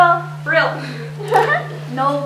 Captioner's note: chuckles